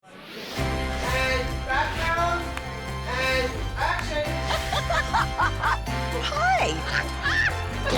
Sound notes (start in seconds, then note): 0.0 bright music; 4.3 both laugh